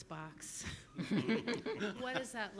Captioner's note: group laughs